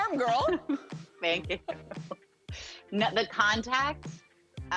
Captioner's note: laughing